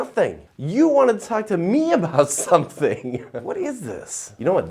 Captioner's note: chuckles